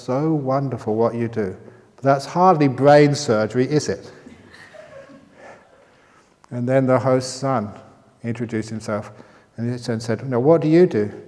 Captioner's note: laughter